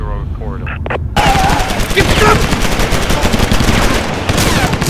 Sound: guns firing

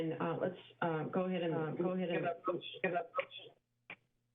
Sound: interference

